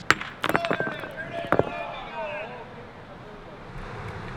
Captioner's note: indistinct chatter